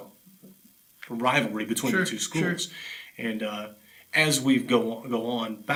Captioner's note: laughs